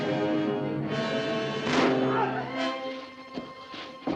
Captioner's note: gun fires